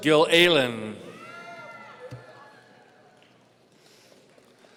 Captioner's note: audience cheering